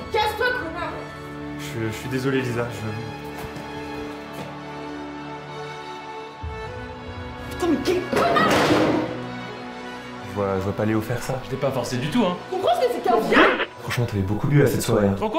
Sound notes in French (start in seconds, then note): 4.5 musique dramatique; 8.4 fracas d'une chaise